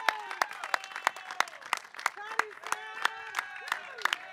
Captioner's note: audience cheering and applauding; man yelling excitedly